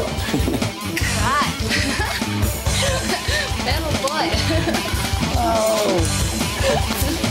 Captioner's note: laughing